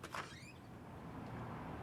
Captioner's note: door opens